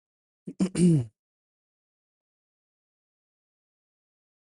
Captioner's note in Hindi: गला साफ़ करने की आवाज़